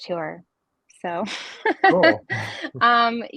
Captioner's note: laughs